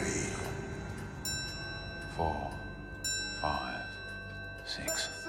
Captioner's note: clock chiming